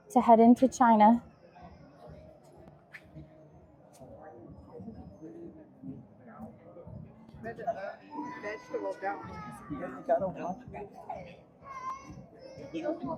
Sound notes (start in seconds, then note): 5.1 crowd chattering; 12.2 crowd chattering